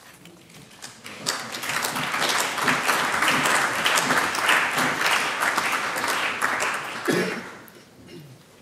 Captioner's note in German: Beifall